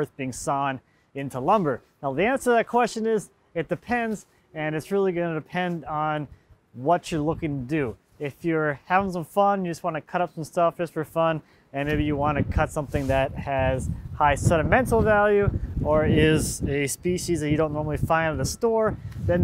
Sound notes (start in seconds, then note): none